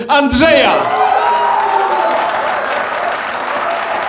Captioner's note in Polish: gromkie brawa i wiwat widowni